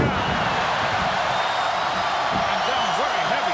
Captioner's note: crowd cheers